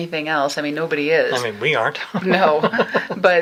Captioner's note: laughs